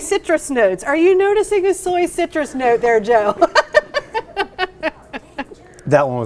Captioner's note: laughs